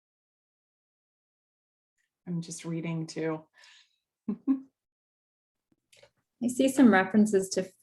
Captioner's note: laughter